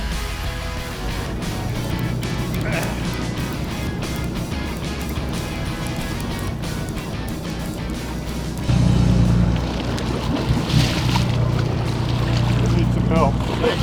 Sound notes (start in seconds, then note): 2.9 man grunts; 10.8 water splashing